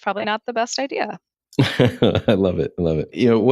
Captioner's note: laughing